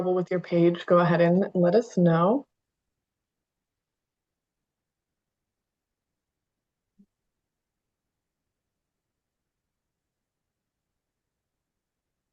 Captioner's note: pause